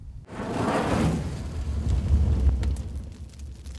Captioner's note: fire crackling